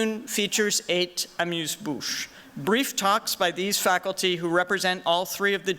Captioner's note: non-english speech